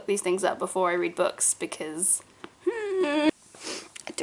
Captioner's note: distressed sounds